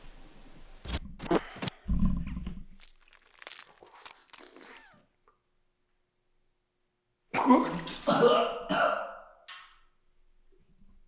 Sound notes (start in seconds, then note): 1.1 static crackling; 2.5 tooth crunching; 7.4 Jacob retching